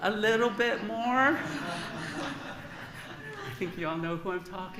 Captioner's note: laughter